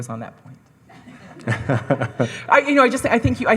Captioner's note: laughing